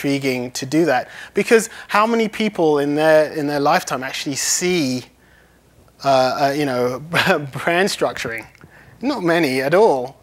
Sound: laughs

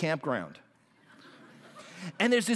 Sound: laughter

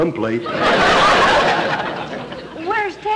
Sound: audience laughter

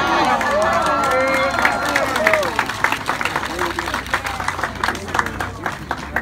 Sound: applause

